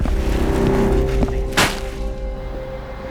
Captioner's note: ice crunches; suspenseful music